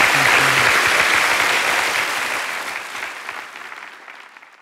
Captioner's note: applause